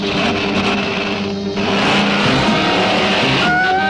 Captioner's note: engine revving; sirens blaring